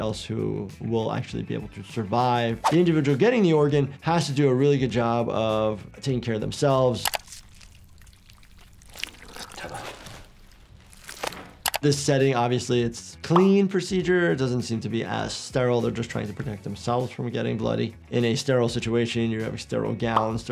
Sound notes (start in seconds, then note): 7.0 mouse clicks; 7.0 skin squelching; 10.0 man speaking in foreign language; 11.6 mouse clicks